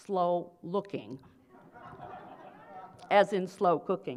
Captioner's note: laughter